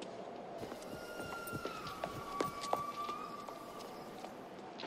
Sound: lady whistling

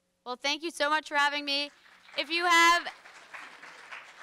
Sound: audience applauds

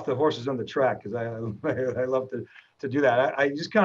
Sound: chuckles

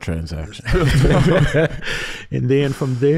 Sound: everyone chuckles

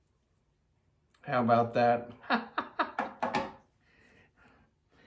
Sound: laughing

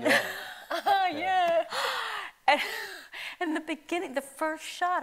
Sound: laughs

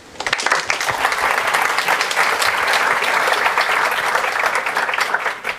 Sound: applause

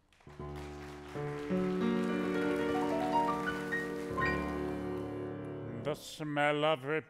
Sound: applause

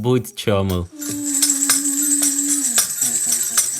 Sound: sound of children's toys

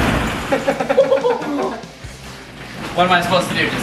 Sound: both laugh

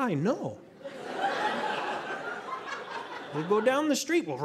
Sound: audience laughing

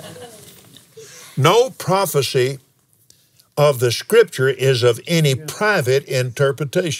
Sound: laughs

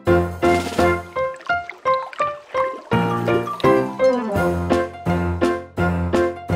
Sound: bright music; water burbles

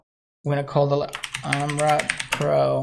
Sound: computer keys

